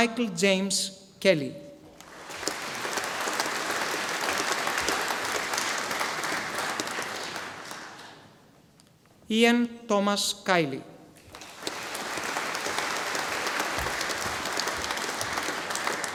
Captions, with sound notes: Michael James Kelly. (audience applauding) Ian Thomas Kiely. (audience applauding)